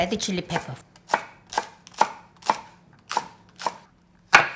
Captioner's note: peppers crunch